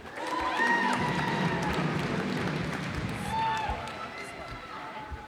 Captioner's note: cheers and applause